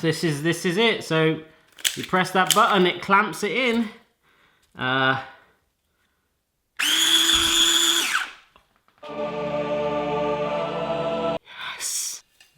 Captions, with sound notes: This is, this is it so, you press that button and it clamps it in. (machine noise) (choir singing) Yes.